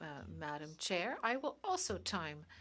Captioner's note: speaking in French